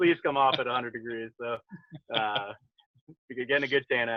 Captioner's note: laughs